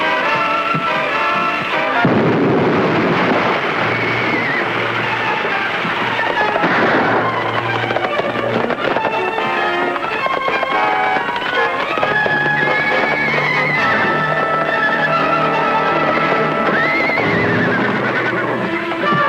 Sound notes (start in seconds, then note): 2.0 explosion booms; 3.4 horse whinnying; 6.7 gunfire pops; 6.7 horse galloping; 10.1 intense orchestral music; 14.6 horse galloping; 16.9 horse whinnying